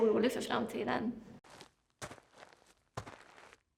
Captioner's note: footsteps in the snow